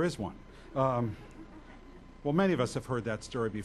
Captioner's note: audience laughs